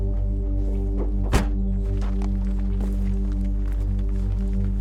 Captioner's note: trunk slams